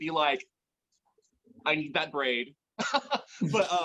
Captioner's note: laughs